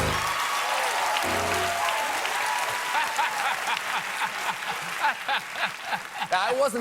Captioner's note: cheers and applause